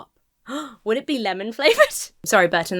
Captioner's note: gasps